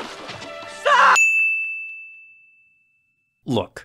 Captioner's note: bell rings